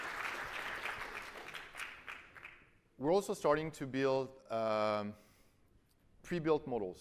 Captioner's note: applause